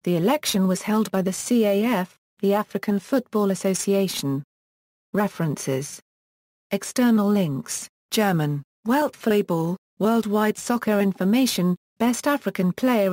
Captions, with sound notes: The election was held by the CAF, the African football association. References External links (German) Weltfußball Worldwide soccer information Best African Player in The Past Fifty Years